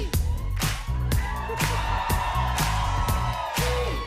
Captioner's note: cheers and applause